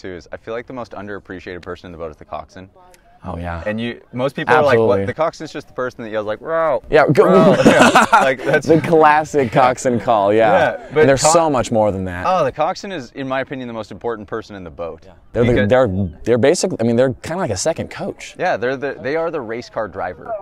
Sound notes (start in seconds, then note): 7.1 laughs